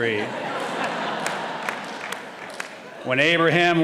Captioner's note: audience laughing